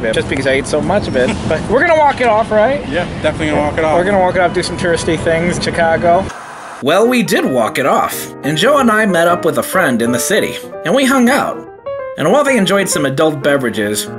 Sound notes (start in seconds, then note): 6.2 TV static; 8.2 jazzy music